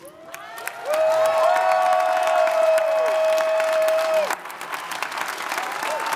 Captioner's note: audience cheering; audience applauding